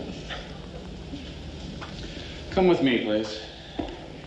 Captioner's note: Ben-David laughs